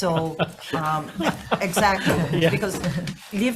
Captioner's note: laughs